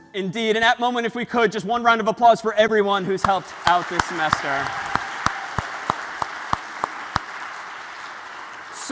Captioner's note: ปรบมือ